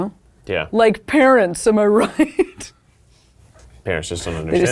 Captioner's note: laughs